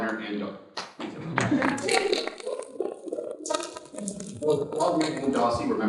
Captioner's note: participants clapping